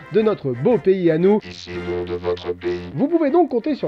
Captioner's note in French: voix robotique